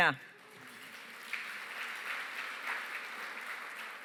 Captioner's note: applause